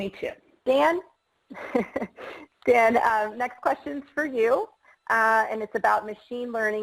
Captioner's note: laughs